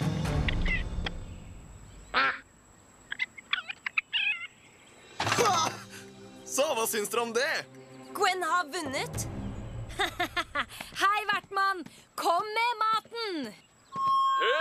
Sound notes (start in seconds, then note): 2.1 quacks; 3.2 chitters; 9.9 laughs